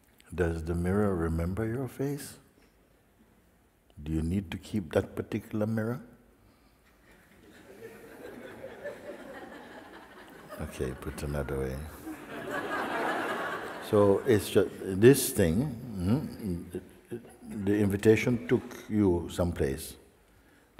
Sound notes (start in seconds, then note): 7.0 laughter